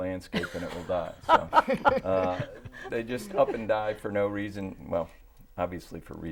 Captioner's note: laughing